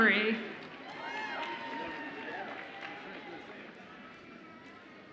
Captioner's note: audience cheers